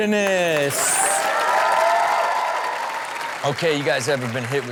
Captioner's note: audience applaud and cheer